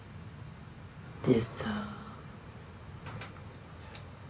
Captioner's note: none